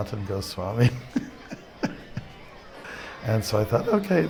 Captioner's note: laughs